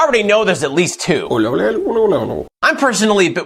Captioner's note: alien Noises